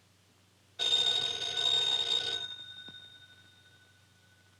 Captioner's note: phone ringing